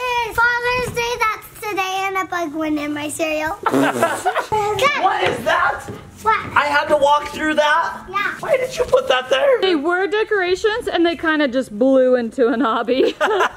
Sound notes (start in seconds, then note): 3.6 everyone laughing